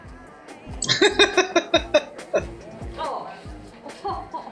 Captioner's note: laughing